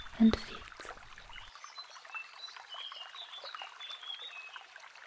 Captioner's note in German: Bachgeplätscher und Vogelgesang